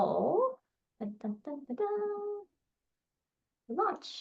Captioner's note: hums